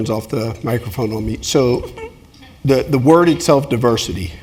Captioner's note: laugh